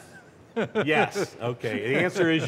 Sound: laughter

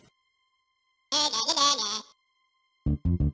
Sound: taunting again

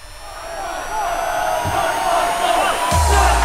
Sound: all cheering

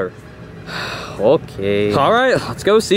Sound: sighs

